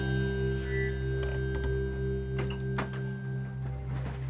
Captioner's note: doors creak closed; footsteps